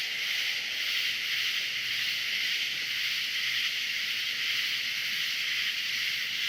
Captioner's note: continued cricket chirping